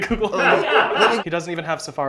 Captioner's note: laughter